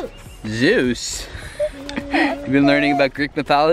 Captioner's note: laughs